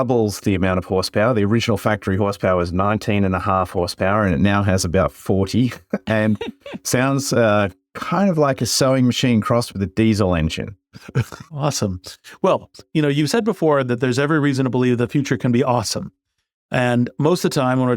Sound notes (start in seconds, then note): 5.6 laugh; 10.9 laugh